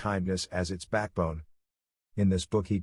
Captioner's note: Arabic